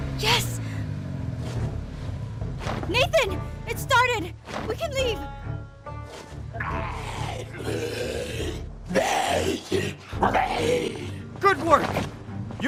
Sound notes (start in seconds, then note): 8.8 zombie growling